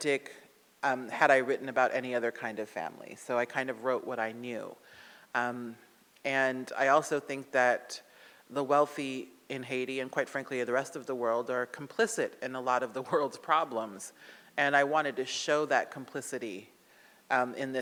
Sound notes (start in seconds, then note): none